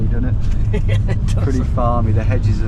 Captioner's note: laughs